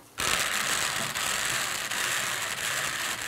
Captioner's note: loud croaking noises